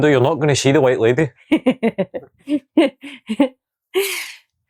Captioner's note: unicorn laughs